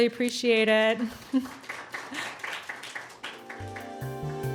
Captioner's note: audience applauds; bright synthesizer music